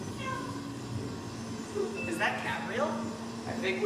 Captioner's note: soundscape continues.... cat "meows"